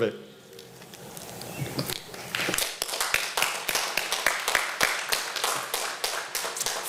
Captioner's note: applause